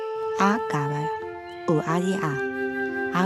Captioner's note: prays in another language